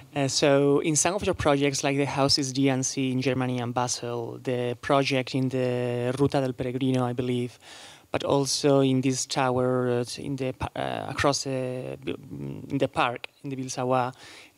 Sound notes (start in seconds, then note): 6.3 spanish